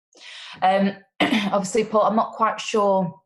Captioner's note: coughs